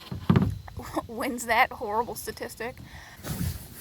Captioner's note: chuckles